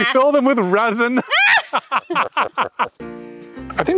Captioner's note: laughs; shrieks